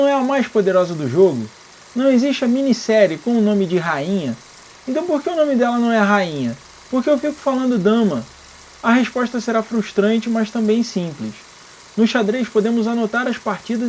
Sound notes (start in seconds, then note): 6.8 again, in Portuguese